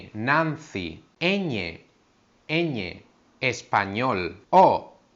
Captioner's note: Spanish